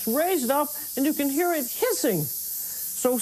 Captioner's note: hissing